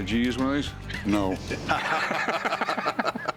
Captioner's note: laughter